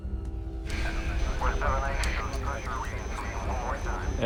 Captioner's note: men speaking on radios